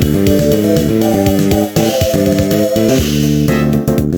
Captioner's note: vroom!; vrrooom